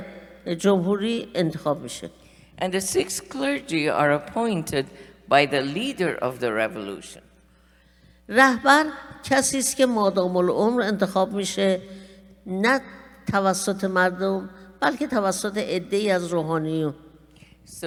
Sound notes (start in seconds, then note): 8.3 speaking persian